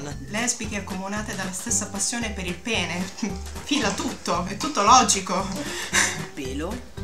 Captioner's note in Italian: ironico